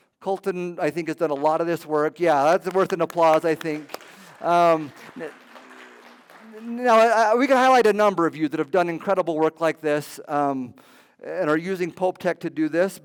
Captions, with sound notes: Colton, I think, has done a lot of this work. Yeah, that's worth an applause. I think. [applause] [applause] We can highlight a number of you that have done incredible work like this and are using Pope Tech to do this.